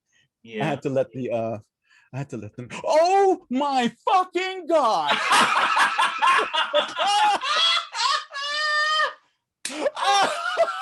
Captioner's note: laughter